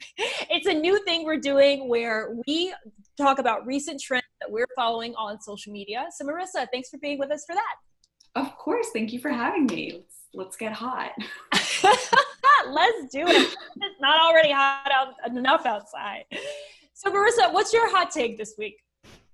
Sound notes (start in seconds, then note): 11.2 laughter